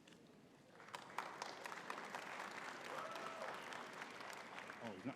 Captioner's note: audience cheering and clapping